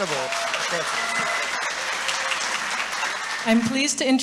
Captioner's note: audience applauding